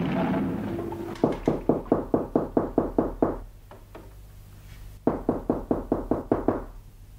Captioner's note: knocks on the door